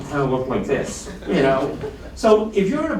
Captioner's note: laughter